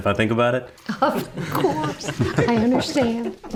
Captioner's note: everyone giggling